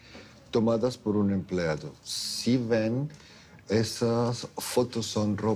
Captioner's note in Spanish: none